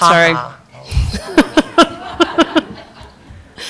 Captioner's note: laughter